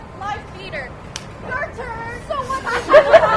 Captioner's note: claps; laughter